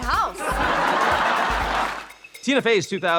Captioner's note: audience laughing